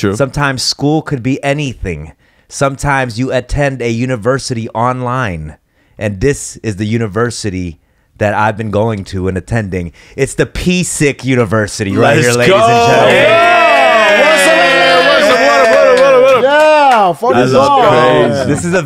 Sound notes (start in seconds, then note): 13.1 hype Noises